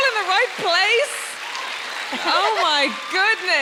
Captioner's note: audience cheering and applauding